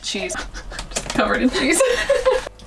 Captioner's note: laughter